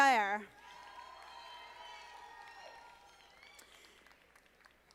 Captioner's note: audience applauding